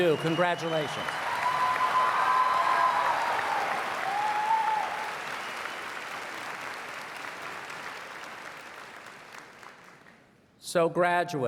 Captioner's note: cheers and Applause